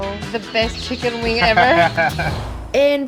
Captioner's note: laughs